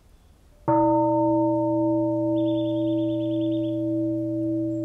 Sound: bell

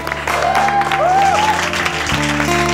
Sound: everybody clapping

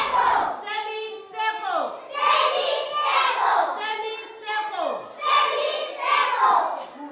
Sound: kids in unison

